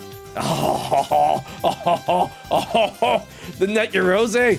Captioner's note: laughs